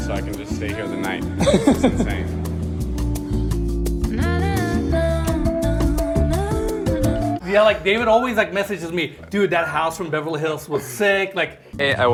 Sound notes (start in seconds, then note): 1.3 laughing; 3.3 spunky music